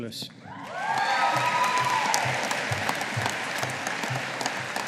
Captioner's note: audience applauding